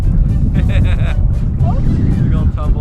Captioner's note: laughter